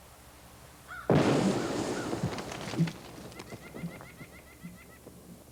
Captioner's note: cannon firing